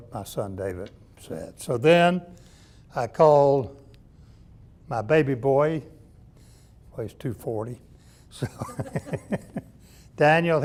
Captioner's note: laughs